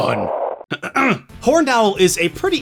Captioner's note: clears throat